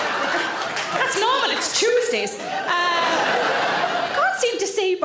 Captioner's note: audience laughing